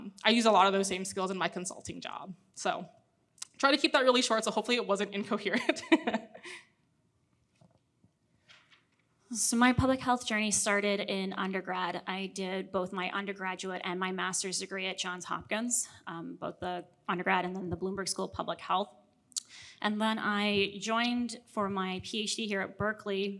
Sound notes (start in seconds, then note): 5.6 laughs